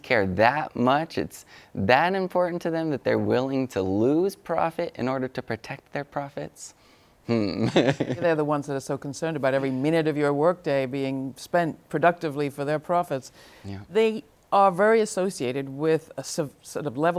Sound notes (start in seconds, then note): 7.4 laughs